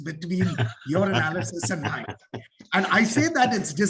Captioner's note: laughing